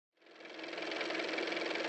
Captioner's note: car motor